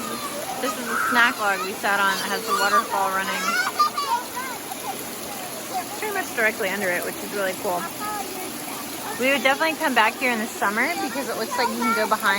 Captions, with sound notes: so this is the snack log we sat on that has the waterfall running...*kids shouting* pretty much directly under it which is really cool! we would definitely come back here in the summer because it looks like you can go